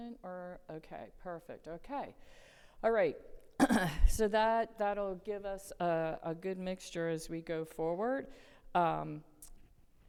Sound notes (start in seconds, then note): 3.6 coughs